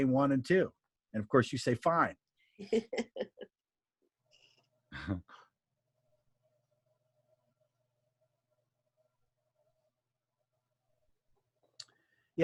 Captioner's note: laughing